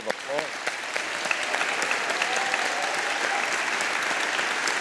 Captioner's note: all applauding